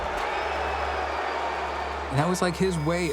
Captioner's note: crowd booing